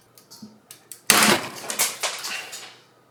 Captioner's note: clattering